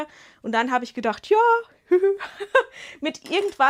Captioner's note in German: Gelächter